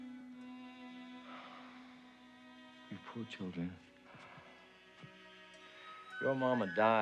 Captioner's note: sighs